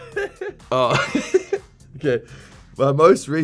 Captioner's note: laughing